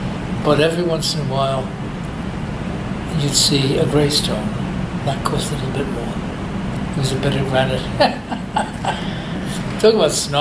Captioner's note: laughs